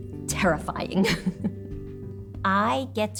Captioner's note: laughs